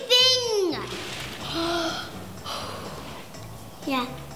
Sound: inhales

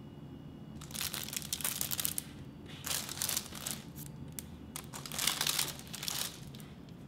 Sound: paper crinkling

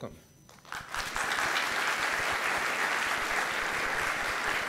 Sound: gathering clapping

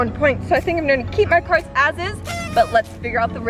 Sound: party horn

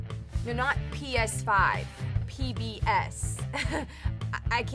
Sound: chuckles

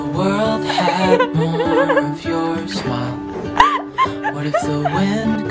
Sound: laughing

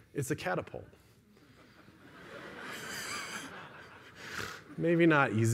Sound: laughter

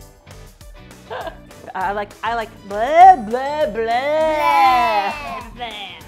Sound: gets tongue-twisted

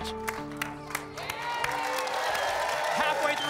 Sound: applause

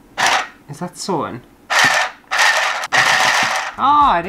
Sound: sewing Machine Motor

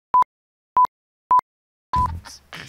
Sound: beep beep beep beep; laughing

